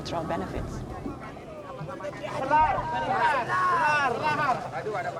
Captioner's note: all speaking Austronesian language